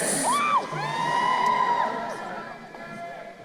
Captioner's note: crowd cheering